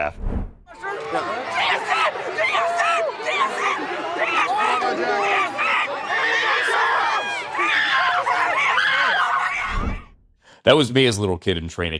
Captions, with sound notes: JSN! JSN! JSN! JSN! JSN! (FANS SCREAMING) That was me as a little kid in training camp